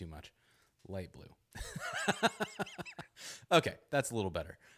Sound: laughs

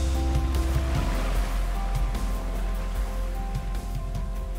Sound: waves splashing; cheerful music

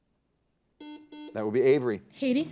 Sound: buzzer dings

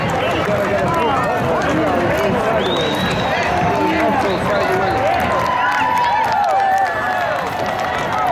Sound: sound of horse hooves on pavement, crowd cheering and whistling

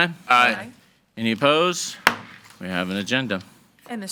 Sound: gavel thuds

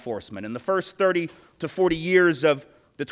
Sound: none

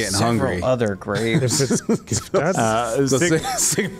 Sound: chuckles

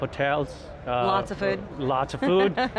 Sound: laughs

